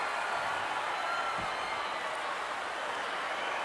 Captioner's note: crowd cheering